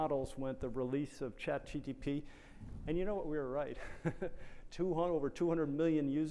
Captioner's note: chuckles